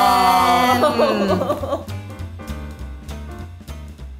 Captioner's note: laughs; shouting; serene music